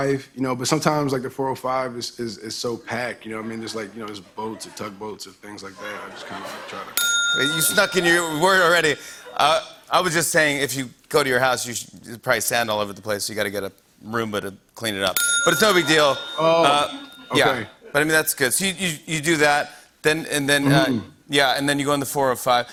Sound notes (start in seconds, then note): 6.9 bell dings; 15.1 bell dings